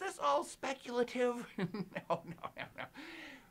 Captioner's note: laughs